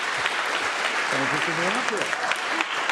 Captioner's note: applause